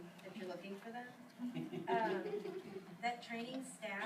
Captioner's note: group chuckles